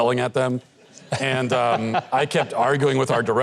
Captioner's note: audience laughs